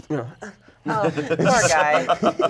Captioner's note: everyone laughs